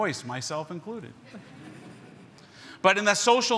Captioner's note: everyone chuckles